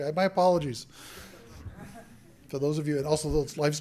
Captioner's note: laughter